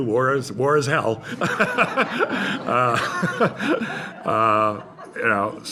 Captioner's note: laughter